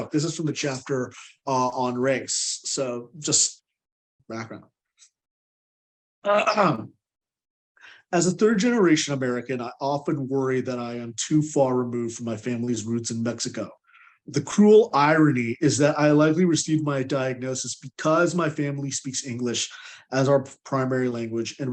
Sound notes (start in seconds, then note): 6.3 clears throat